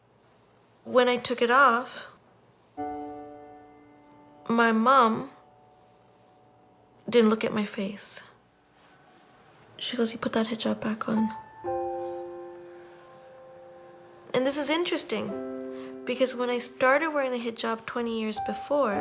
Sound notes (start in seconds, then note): none